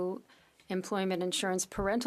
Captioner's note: speaking French